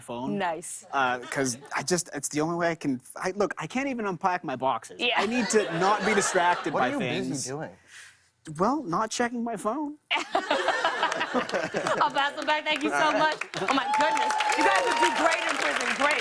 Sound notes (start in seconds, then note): 5.2 laughter; 10.1 laughter; 12.4 cheers and applause